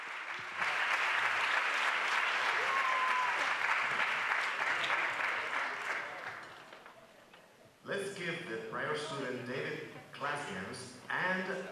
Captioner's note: applause